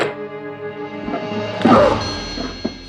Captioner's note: grunts